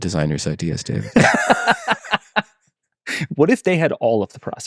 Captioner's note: group laughing